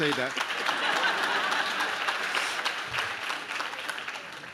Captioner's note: audience laughs